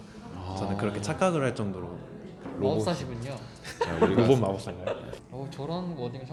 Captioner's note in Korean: 웃음